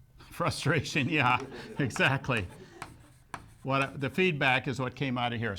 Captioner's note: laughs